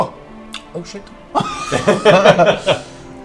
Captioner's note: all laugh